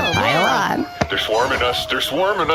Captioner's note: terrified